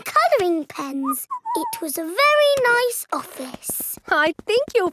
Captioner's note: whistles